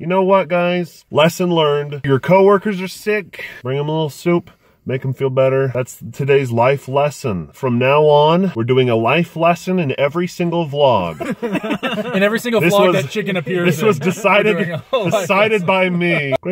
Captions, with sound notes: You know what guys, lesson learned. Your coworkers are sick, bring 'em a little soup make 'em feel better. That's today's life lesson. From now on, we're doing a life lesson in every single vlog. (all laugh) - In every single vlog that Chicken appears in. - This is decided by me.